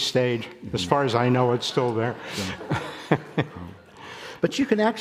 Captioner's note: audience laughing